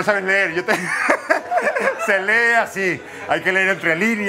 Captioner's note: laughs